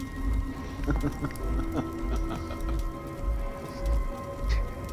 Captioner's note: dramatic music; vampire laughing